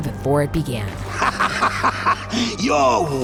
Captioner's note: laughing